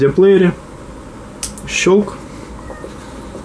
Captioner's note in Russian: щелчёк